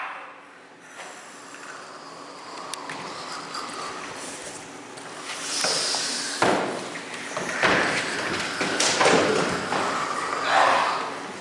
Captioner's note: CHORUS hissing and growling